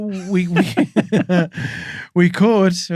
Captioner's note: laughing